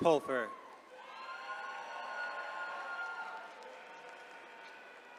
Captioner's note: attendees cheering